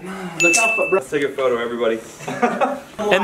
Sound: chime

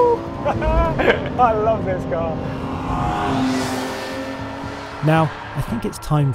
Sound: laughing

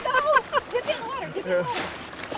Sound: laughing

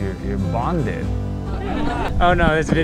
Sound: laughing

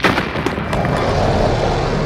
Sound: roars

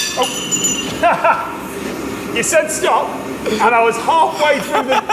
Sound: laughs

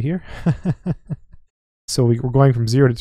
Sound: instructor chuckling

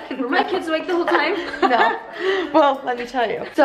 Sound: chuckling

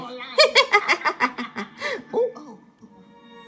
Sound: laughs

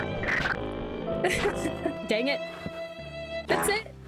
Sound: chaotic laughter

